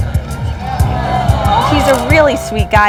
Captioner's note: audience ooh and ahh